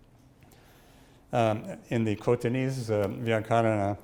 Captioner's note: speaks in foreign language